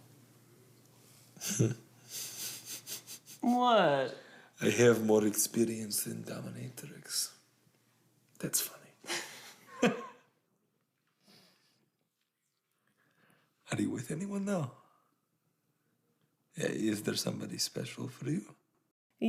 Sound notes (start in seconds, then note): 2.0 Radovan chuckles; 9.0 both laugh